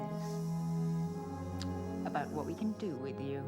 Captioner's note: hissing